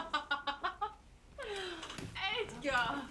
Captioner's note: laughing